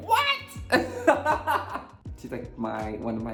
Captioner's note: Symone laughs